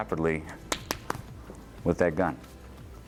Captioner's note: tapping hands